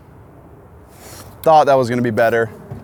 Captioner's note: none